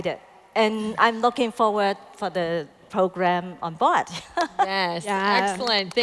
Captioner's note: laughs